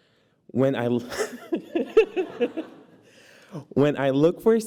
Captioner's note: laughter